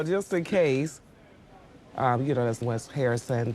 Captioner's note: chuckling